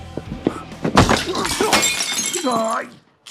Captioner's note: both grunt